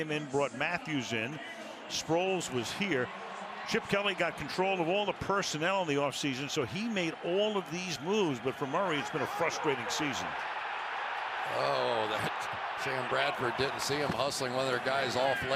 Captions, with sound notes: brought him in, brought Matthews in. Sproles was here. Chip Kelly got control of all the personnel in the offseason. So he made all of these moves. But for Murray, it's been a frustrating season. [cheers] Oh, Sam Bradford didn't see him hustling one of their guys